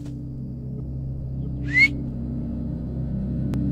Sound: whistle

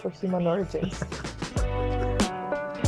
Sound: laughing

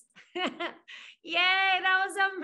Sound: laughs

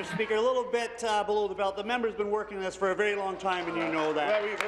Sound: applause

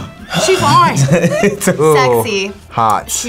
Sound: laughs

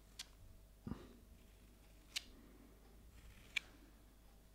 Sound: spatula scratching

